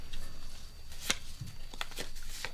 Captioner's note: sound of playing cards